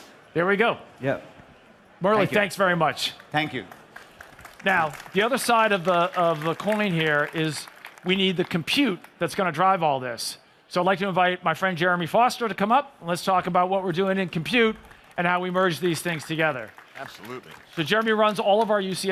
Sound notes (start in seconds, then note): 9.0 applause